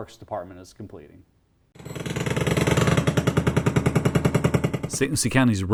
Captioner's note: jack hammer sounds